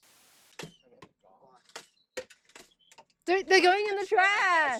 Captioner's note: firing minigun